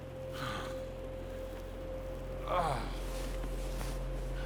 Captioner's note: James groaning